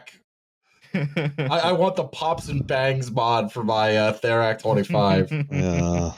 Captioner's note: chuckling